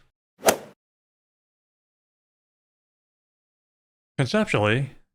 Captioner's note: golf ball hit sound